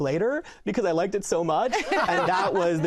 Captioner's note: laughter